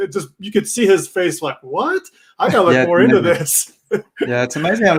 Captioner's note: laughing